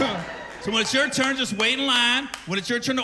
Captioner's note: cheering